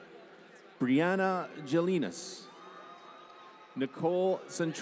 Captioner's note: applause